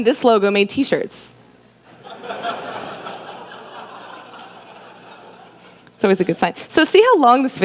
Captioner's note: laughter